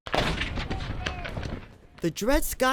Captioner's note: cannon fires